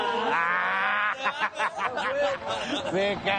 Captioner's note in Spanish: Risas